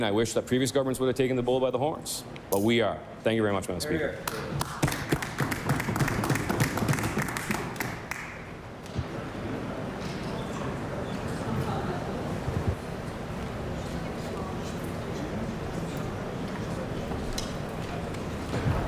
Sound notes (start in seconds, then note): 8.3 applause